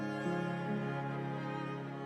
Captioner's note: none